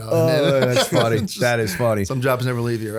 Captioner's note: laughter